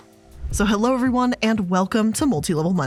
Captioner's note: air whooshing